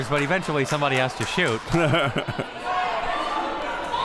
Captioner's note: laughs